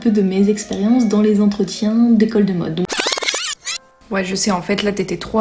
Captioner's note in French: bruit de casette oups